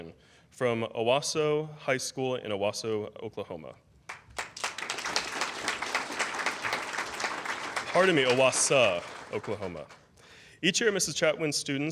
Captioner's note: applause